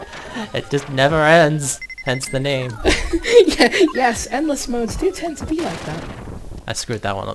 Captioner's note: both laugh; laughs